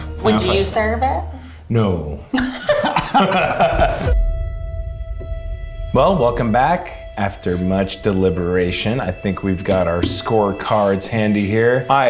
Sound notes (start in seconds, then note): 2.4 all laughs; 4.3 suspenseful music